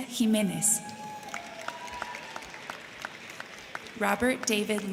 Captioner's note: crowd cheering; crowd clapping